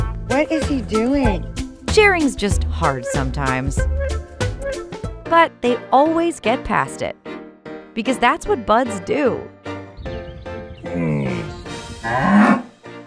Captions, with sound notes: "What is he doing?" Sharing's just hard sometimes. But they always get past it because that's what buds do! [Camelot grunting] [Benjamin mooing]